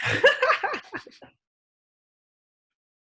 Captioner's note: laughing